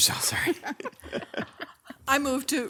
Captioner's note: laugh